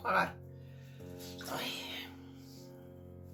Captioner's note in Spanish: suspiro. ¡ayyy!